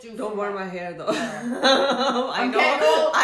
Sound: laughing

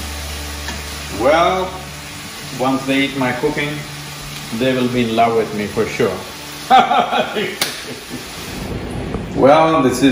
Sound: laughs

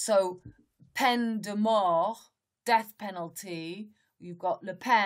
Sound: speaks in French

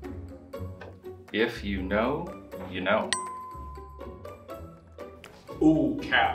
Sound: bell dings

